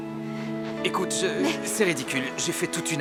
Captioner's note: panting